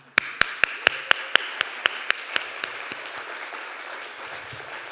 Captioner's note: everyone applauding